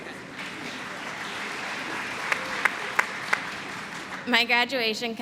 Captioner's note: applause